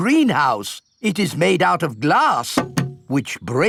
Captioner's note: knocks